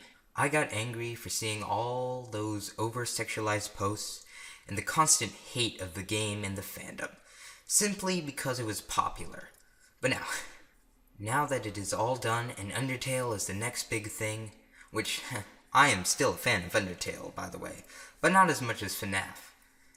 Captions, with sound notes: I got angry for seeing all those over-sexualised posts, and the constant hate of the game and the fandom, simply because it was popular. But now... *scoff* Now that it is all done, and Undertale is the next big thing, Which, ha, I am still a fan of Undertale, by the way, But not as much as FNAF,